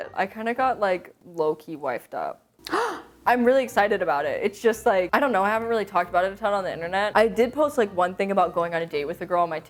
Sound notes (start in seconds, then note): 2.6 gasps